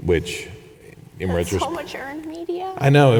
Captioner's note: chuckles